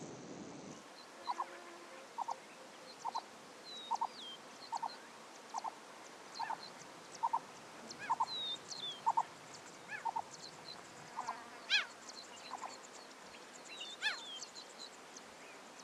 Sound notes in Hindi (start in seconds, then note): 1.2 चहचहाहट